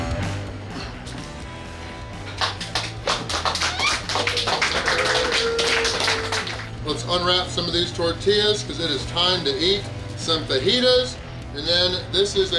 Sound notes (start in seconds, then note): 2.3 clapping